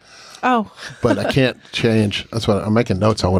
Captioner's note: chuckles